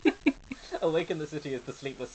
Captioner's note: laughing